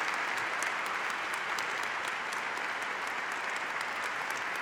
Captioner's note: applause